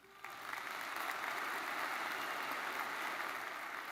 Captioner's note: audience applauds